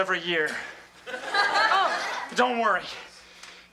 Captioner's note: audience laughs